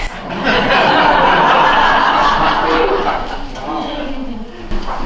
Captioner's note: audience laughs